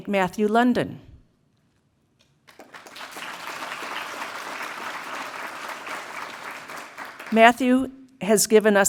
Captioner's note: applause